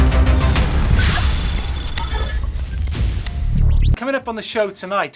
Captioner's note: electric beeping